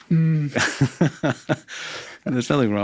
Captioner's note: laughing